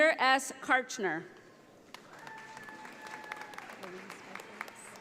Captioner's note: audience applauding